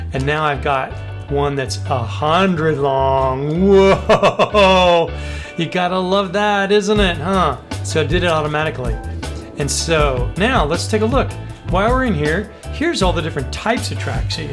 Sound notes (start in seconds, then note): 3.6 laughs